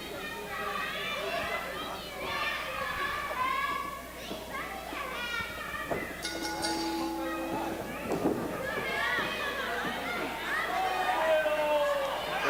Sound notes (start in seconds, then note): 6.2 bell dings; 8.9 crowd yells